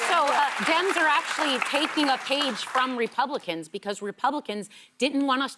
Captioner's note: applause